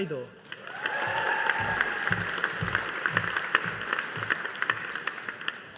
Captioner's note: audience applauding